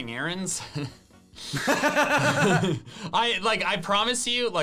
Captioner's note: laughing